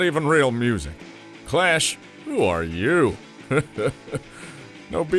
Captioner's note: laughs